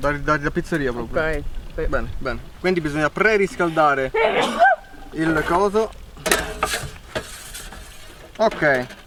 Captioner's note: sneeze